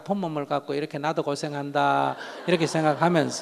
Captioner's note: audience Laughter